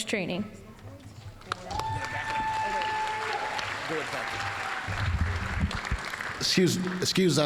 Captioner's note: applause